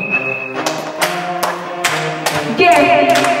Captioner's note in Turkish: bang bang bang